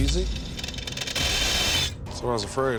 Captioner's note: grinding noise